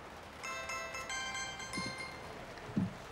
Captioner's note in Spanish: Suena el móvil